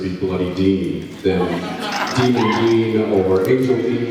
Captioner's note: laughs